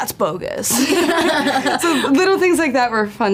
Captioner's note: both laughing